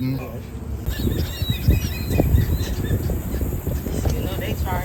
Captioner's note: birds chirping